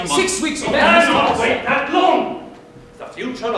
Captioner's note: Astor yelling